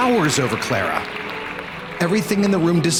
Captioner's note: audience applauds